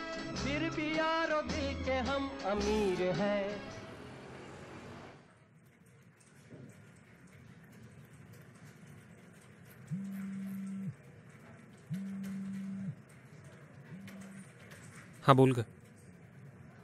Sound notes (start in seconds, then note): 11.9 phone vibrating